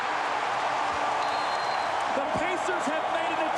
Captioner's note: whistle blows